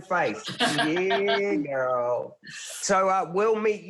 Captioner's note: laughs